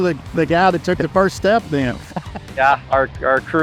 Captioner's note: chuckles